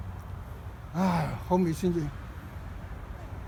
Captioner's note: sighing